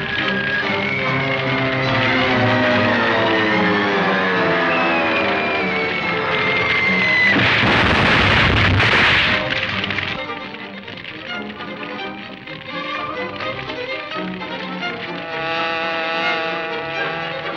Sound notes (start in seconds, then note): 0.2 fire crackling; 7.4 explodes loudly; 15.0 car buzzing